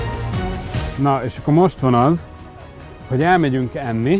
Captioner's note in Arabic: التحدث باللغة الهنغارية